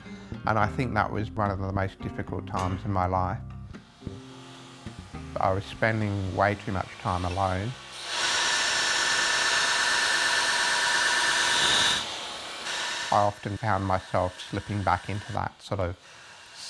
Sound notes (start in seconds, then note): 4.1 grinder noise; 8.2 metallic grinding